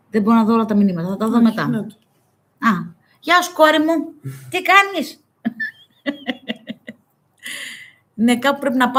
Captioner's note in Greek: γέλια